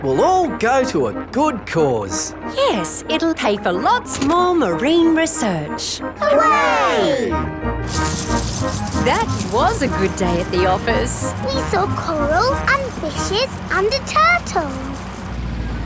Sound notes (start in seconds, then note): 8.3 coins jingling